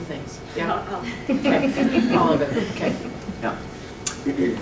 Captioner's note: laughter and chatter